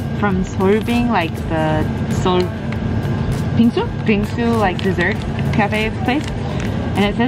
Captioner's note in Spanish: habla extranjera